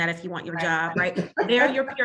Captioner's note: laughs